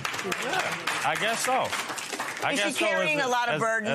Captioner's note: stammering